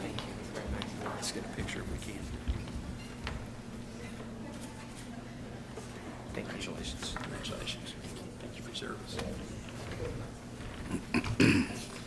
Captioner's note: background Discussion